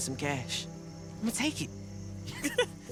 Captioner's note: chuckles